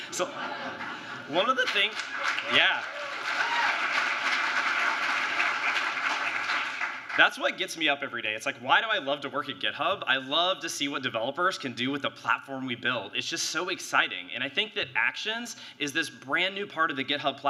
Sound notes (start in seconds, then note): 2.9 applause